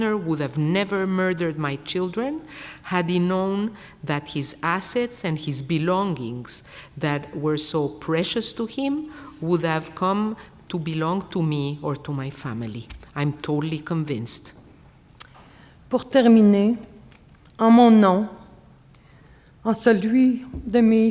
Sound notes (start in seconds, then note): 15.8 speaking French